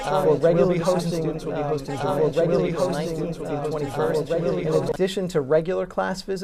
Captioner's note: corrupt Audio